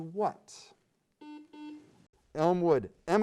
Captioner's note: beep